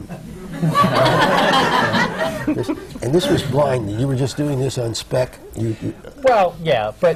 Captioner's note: laughter